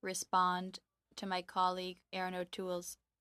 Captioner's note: speaking French